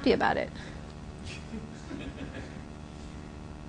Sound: laughter

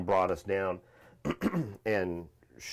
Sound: clears throat

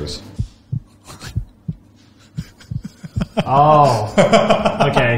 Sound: chuckles

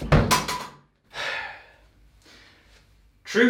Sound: sigh

